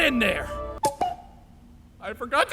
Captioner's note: cuckoo SFX